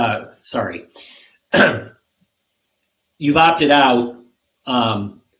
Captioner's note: clears throat